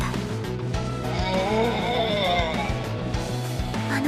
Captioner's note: demonically Possessed growling